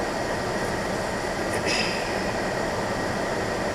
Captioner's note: clears throat